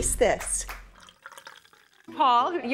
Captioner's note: wine pouring